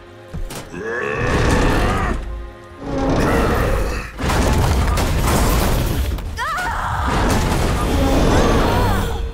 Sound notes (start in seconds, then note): 0.6 grunting; 4.1 clanking; 7.8 clanking